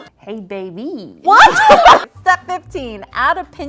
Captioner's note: laughs